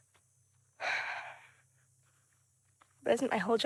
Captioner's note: sighs